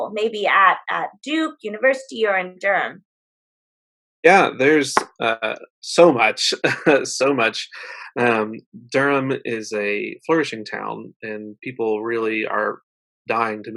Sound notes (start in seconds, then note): 6.0 laughs